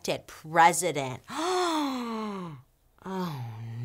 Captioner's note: gasping